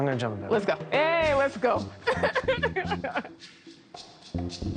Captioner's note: laugh